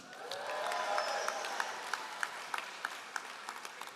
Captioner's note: all applauding